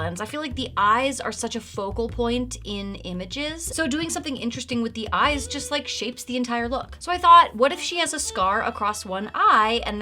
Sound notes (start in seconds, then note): none